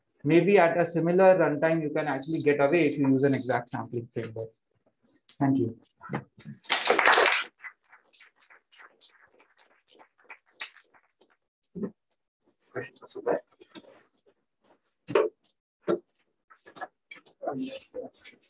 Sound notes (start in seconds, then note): 9.6 applause